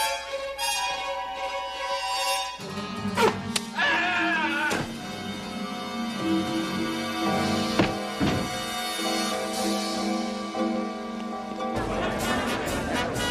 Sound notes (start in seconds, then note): 1.9 blowing; 3.7 screaming; 7.7 pipe thudding